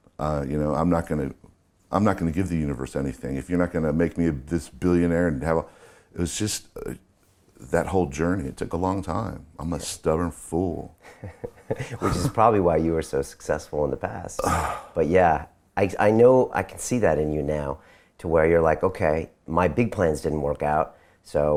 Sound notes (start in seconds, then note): 11.1 laughing; 14.4 groaning